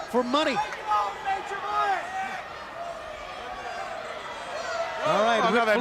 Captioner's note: crowd chatter